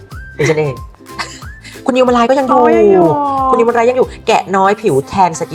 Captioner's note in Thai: เสียงหัวเราะ